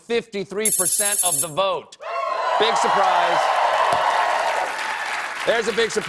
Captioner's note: cheers and applause